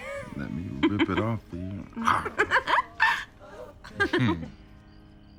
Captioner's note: Jane laughs